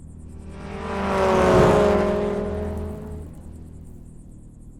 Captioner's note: car engine rumbling